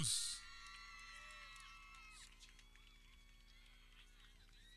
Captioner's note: people cheering